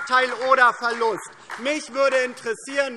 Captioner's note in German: Beifall DIE LINKE und SPD